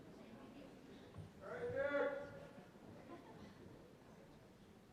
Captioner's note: voiceover